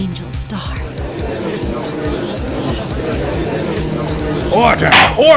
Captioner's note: gallery chattering